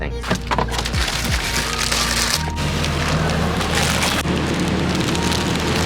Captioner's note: plastic packaging paper scrunches